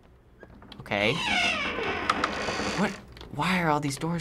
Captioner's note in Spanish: puerta cruje